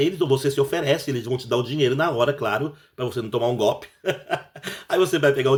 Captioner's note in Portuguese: risadas